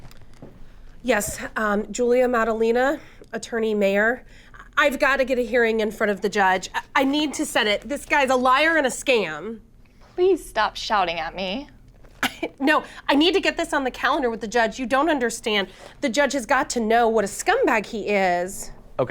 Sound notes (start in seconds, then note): 12.2 chuckling